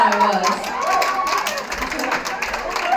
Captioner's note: laughter and applause